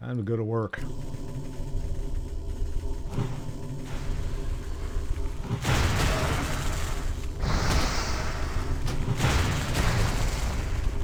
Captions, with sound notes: I'm good at work. [gunfire] [heavy breathing] [gunfire]